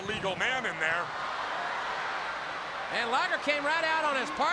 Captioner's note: crowd cheering